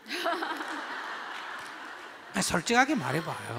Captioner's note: audience/Questioner Laughter